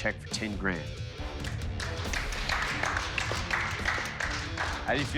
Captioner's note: applause